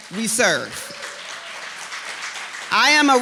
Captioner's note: applause